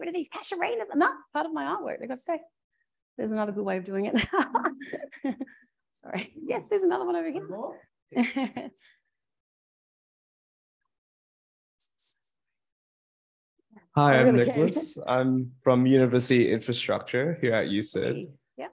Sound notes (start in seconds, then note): 4.6 laughs